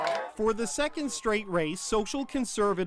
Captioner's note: cheers and Applause